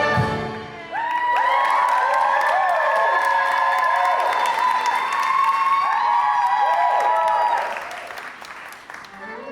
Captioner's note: audience cheers